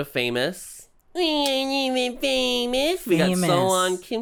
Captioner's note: whiny